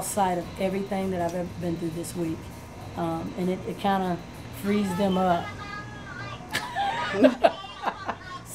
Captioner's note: laughs